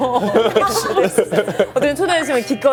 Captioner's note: haha